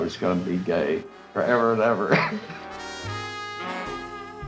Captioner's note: laughs; upbeat music